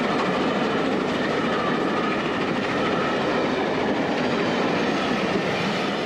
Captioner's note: train passes